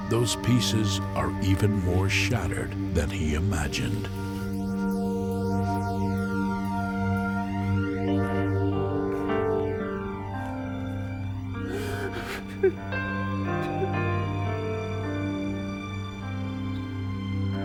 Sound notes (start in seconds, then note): 8.7 crying; 13.1 melancholy piano and string music